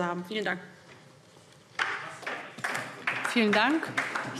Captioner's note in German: Beifall DIE LINKE